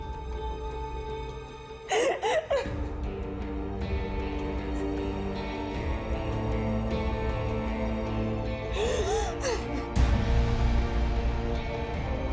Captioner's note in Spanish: Llanto de Josefina